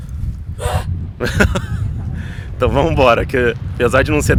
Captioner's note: laughter